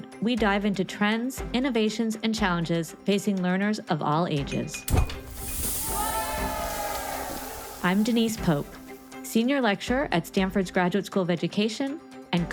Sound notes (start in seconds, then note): 4.8 object clinking; 5.0 air whooshing; 7.1 bright music; 7.1 crowd cheering